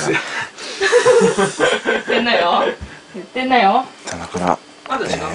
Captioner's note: laughing